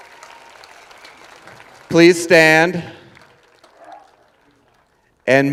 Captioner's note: cheers and applause